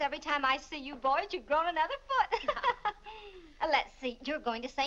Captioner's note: laughs